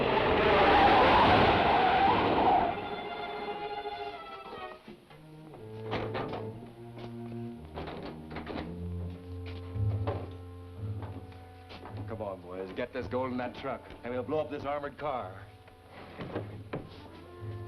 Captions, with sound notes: (suspenseful orchestral music) (door clicks) Come on, boys, get this gold in that truck and we'll blow up this armored car.